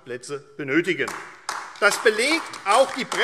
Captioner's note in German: Beifall AfD